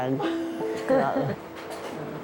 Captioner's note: laughter